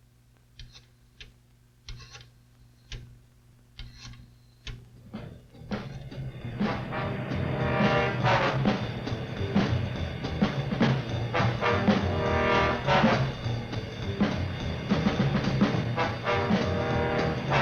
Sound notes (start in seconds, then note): 0.7 telephone dialing; 6.1 upbeat music